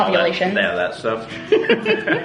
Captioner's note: laughing